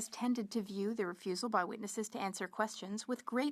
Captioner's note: speaking French